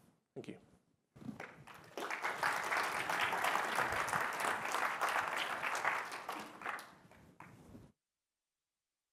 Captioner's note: applause